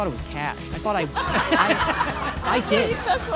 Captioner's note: audience laughing